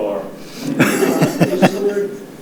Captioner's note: laughing